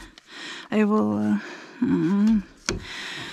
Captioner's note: groans